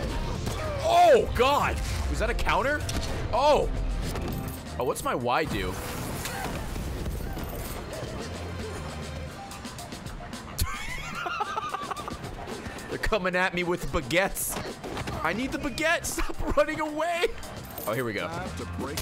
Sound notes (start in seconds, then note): 8.1 laughs